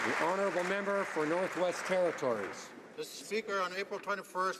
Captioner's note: some Applause